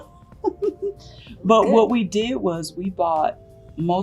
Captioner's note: laughs